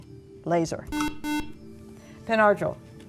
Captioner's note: buzzer